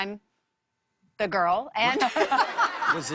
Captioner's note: laughter